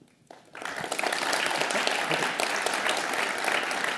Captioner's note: audience applauds